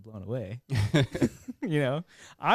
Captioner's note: laughing